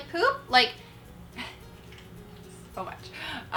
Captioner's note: laughter